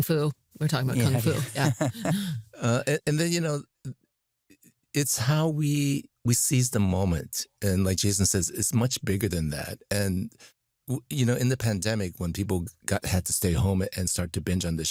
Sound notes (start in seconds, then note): 1.0 laughter